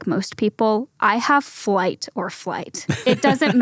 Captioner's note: laughs